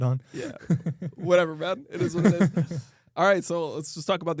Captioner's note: laughs